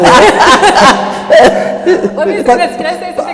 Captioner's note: speakers laughing